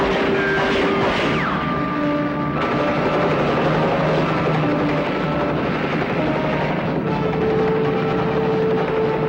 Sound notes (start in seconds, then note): 0.0 gunshot pops; 0.0 gunshots popping; 3.7 helicopter roaring